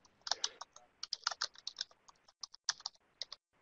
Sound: typing

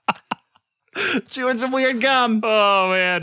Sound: laughter

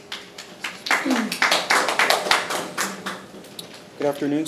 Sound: attendees clapping

